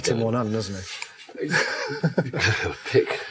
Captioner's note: laughs